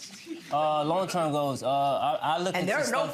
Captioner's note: audience laughing